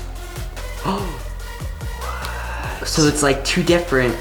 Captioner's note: gasps